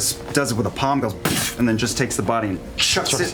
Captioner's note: slam